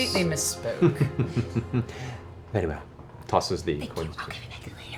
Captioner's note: chuckles